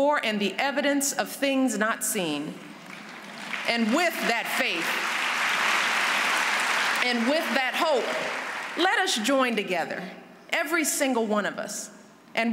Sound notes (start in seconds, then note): 2.7 applause